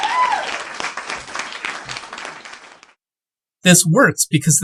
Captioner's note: crowd cheers